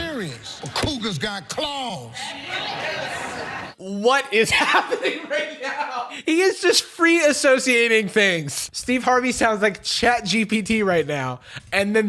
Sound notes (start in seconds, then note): 0.0 crowd laughing and clapping; 2.2 crowd agreeing; 4.2 laughing